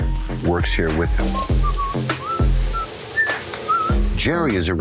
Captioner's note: whistling